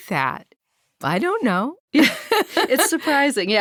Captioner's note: laughing